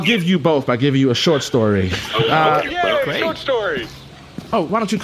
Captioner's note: excited